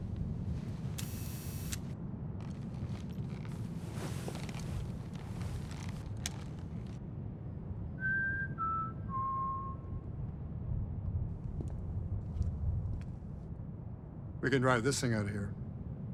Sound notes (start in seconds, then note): 1.0 robot whirring; 8.0 Chuck whistling